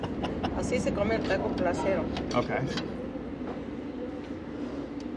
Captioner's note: laughing; speaking in foreign language